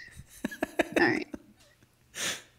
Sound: laughing

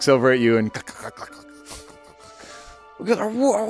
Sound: laughing

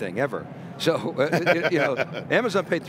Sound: laughing

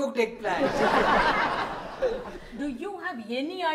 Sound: audience laughs

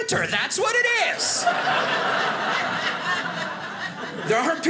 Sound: audience laughing

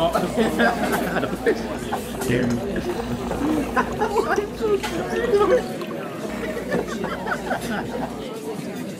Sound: laughter

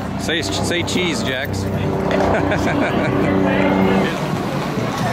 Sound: both chuckle

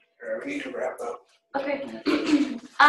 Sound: male Voice

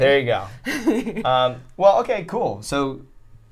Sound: laughs

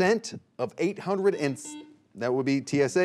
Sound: buzzer beeping

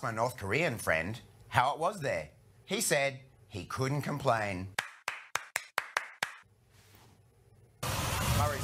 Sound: clapping sounds

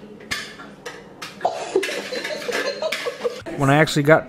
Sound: laughter off screen

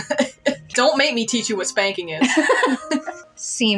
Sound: laugh; laugh

